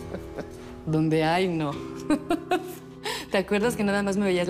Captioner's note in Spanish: Risas